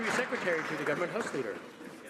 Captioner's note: some Applause